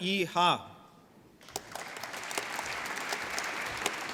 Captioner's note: applause